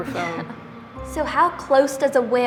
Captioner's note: laughing